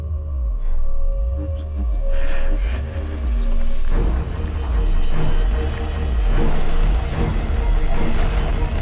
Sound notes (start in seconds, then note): 2.1 ghostly voice whispers; 4.9 suspenseful music